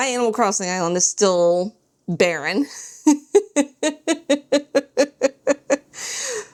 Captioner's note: laughs